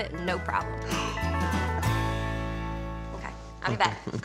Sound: gasps

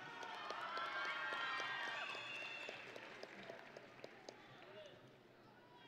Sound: audience and graduates cheering

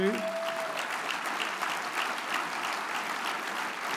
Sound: audience applauds

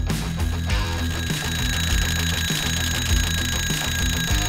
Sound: metal clanging

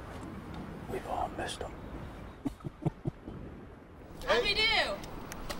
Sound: laughs

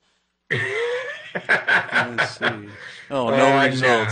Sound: laughs

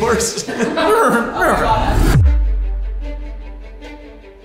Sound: neighing

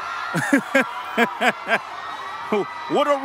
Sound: laughs

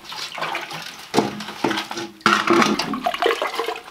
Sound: water splashing

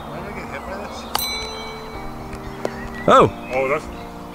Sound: bell dings

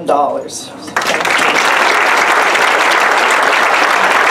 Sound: applause

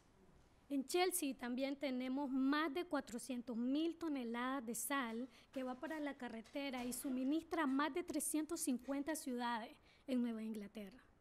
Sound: speaking spanish

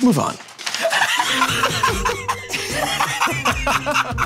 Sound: Joe and Q laugh

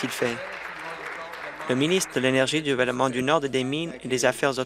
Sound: applause

